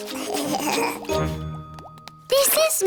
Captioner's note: giggling